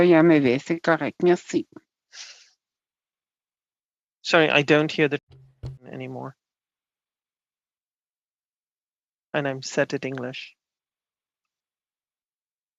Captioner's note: speaking French